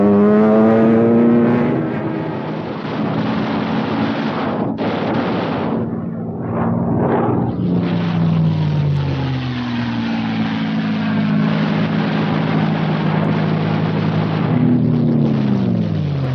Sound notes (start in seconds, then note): 2.9 guns firing